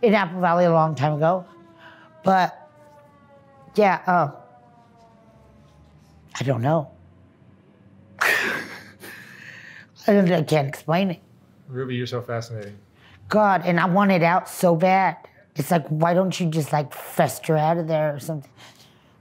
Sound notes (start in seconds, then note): 6.0 laughs